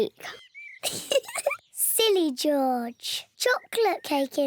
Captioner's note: laughs